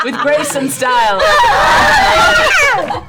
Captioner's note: screaming